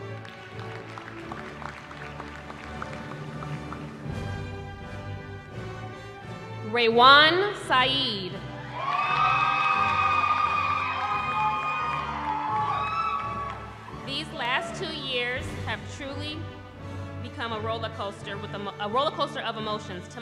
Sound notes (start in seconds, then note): 0.0 applause; 8.5 cheering